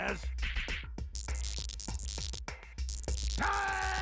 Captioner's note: electronic buzzing